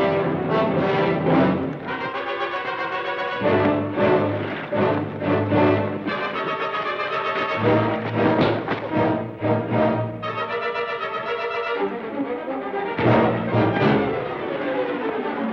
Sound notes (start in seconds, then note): 8.1 thud; 13.0 thud